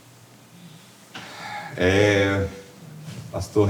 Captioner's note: Jeremias sighs